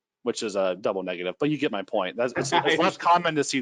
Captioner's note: laughing